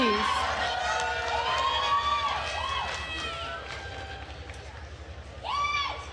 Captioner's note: attendees cheering and applauding